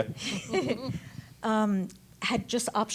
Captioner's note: women chuckle